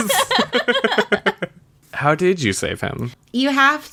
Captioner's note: laughs